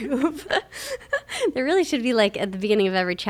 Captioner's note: both laugh